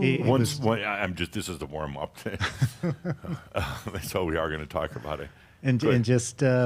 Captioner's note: they chuckle